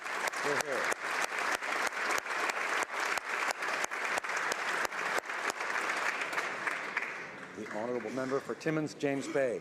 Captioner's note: applause